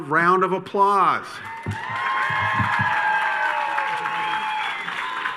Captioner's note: attendees cheering